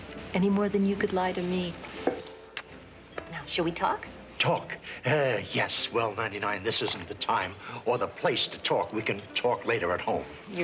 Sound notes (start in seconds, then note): none